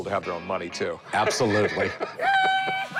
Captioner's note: laughs